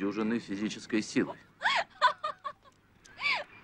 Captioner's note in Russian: женский смех